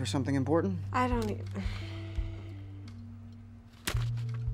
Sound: Cassidy stammering

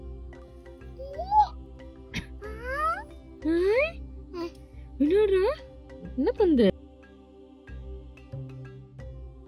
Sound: baby's sound

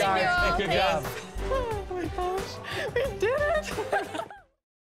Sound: laughs

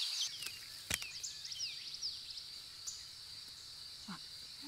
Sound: branches crunching

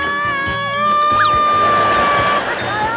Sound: scream desperately

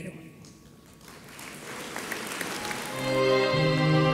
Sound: audience applauds; elegant music

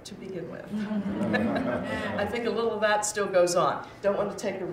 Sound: chuckles

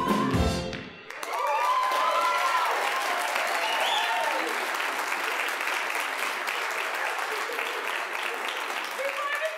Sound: applause, cheering

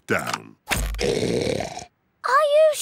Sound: oinks loudly

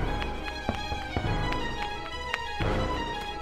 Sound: fireworks popping nearby

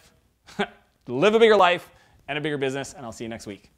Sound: chuckles

